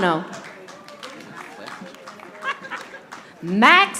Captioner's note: audience applauding